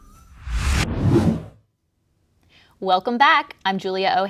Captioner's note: logo whooshes